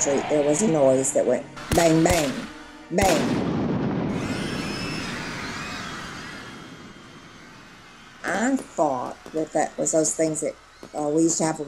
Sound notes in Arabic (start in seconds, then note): 4.3 انفجار طلقات نارية; 7.2 صراخ الحشد